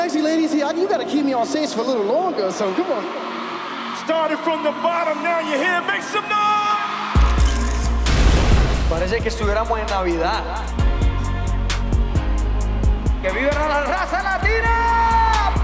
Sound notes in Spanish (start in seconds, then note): 0.0 en inglés; 8.3 en español